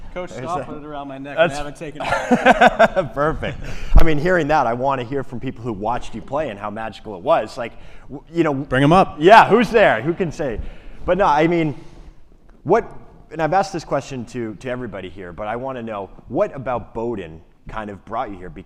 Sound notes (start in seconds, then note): 2.0 laughs